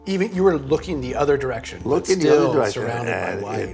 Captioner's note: laughs